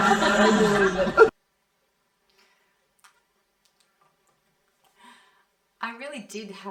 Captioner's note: laughter